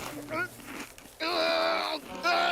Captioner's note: groaning